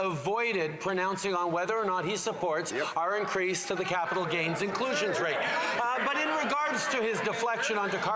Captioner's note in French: voix de l'interprète